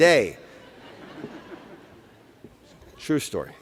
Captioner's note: laughter